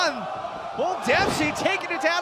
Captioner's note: crowd chatter